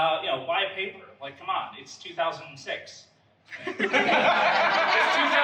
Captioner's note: audience laughs